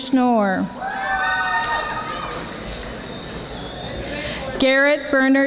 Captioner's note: audience applauding